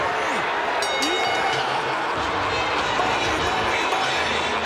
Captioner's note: bell ringing